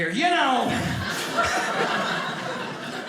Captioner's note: audience laughing